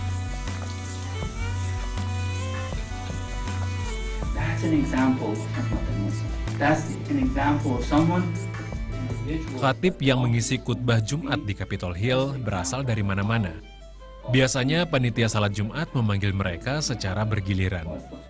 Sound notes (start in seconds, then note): 10.7 non-english speech